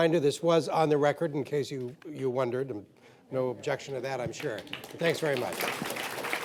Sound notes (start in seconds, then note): 4.3 applause